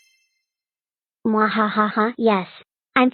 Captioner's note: Scratch Cat disguised as Pico's voice through audio footage